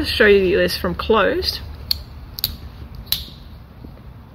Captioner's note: click